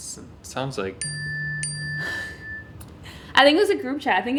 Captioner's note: phone chiming